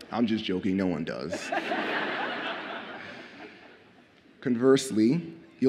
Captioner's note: audience laughs